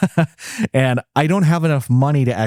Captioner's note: laughs